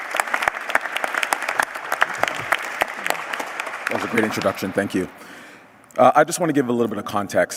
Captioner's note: applause